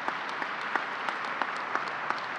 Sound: applause

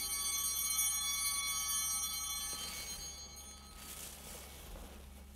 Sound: bell ringing

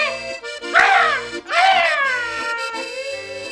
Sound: battle noises

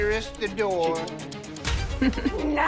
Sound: laughs

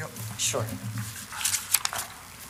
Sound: camera clicks

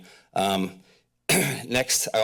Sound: clears throat

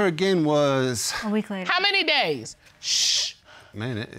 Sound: shushes

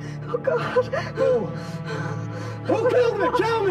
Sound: panting

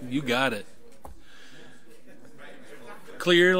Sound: overlapping chattering

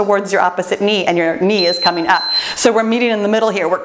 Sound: timer beeps

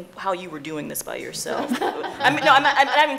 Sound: laughing

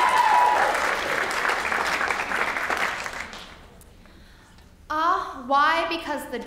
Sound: applause

